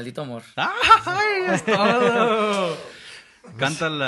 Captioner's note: mexican Yell